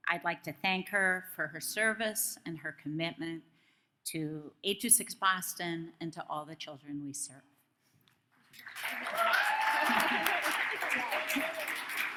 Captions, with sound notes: I'd like to thank her for her service and her commitment to 826 Boston and to all the children we serve. (audience claps)